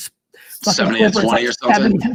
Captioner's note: laughs